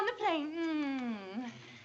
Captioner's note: kissing noises